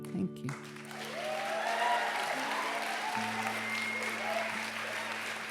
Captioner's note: applause